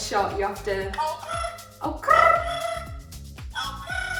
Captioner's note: trilling sounds